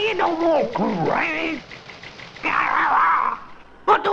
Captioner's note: some sort of scream